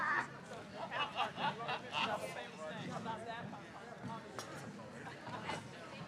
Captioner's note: attendees laughing and chattering